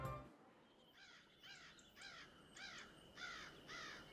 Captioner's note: crows cawing